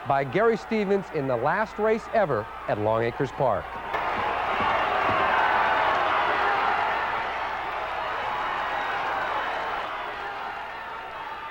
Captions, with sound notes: by Gary Stevens in the last race ever at Longacres Park. (crowd cheering)